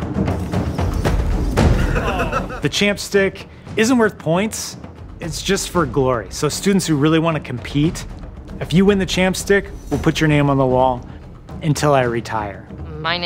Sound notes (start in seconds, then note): 1.7 laughter